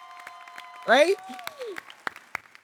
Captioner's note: crowd cheering